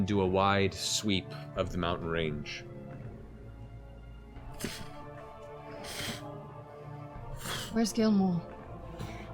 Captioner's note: flapping wings